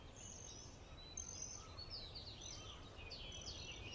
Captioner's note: birds chirping